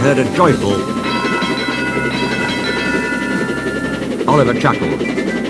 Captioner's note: Isabel rings her bell